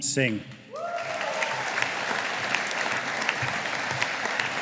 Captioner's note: audience applauding